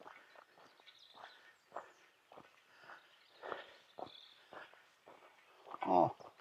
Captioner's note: birds chirping